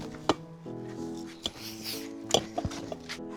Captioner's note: urns clanking together